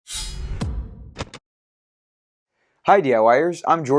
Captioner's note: sound effect